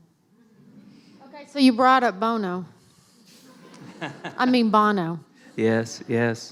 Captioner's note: laughter